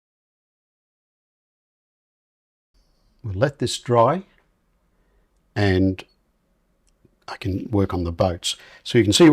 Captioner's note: silence